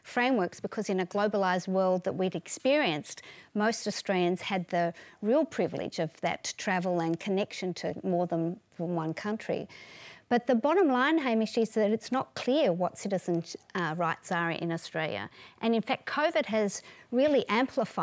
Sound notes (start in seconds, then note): none